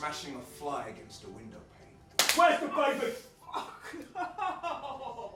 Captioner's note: slap